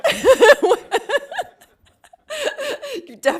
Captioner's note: laughing